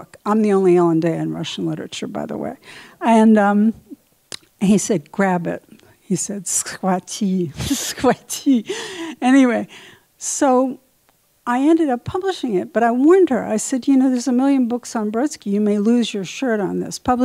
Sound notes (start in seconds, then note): 6.3 speaking in Russian; 7.0 chuckles